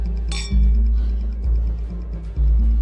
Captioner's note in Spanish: Choque de copas